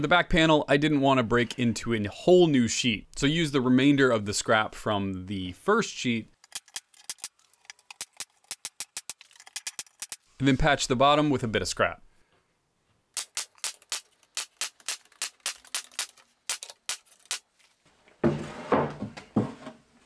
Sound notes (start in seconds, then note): 7.0 pneumatic nail gun